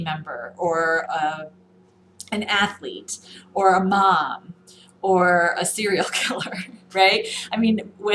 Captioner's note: laughs